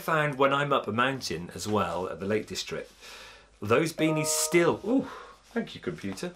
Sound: computer bleeps

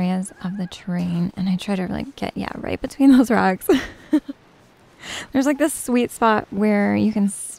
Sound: giggles

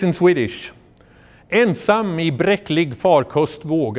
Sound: speaking foreign language

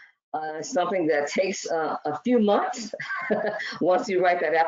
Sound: laughs

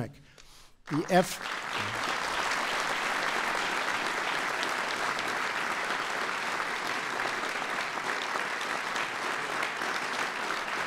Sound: applause

